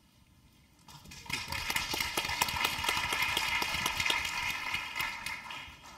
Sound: applause

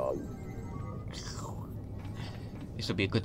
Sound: radio crackles out

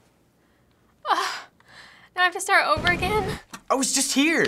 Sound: scoffs

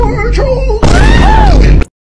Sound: boom

